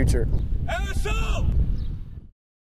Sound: shouting

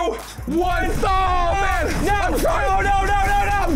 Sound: screaming

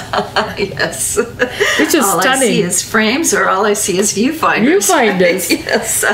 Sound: laughs

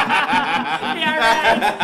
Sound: laughter

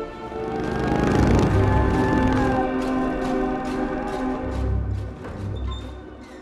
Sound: engine rumbling; siren blaring

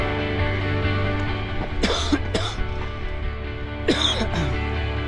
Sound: coughing

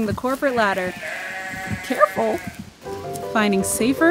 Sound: goats bleat

